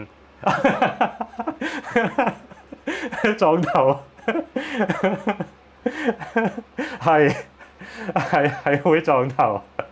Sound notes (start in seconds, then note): 0.4 laughs